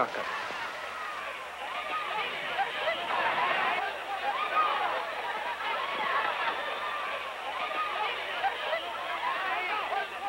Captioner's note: shouting